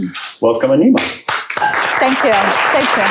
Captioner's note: applause